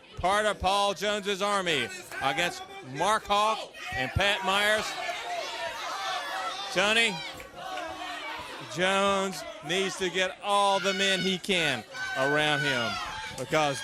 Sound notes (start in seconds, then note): 4.8 crowd chatter